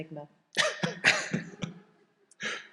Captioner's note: chuckles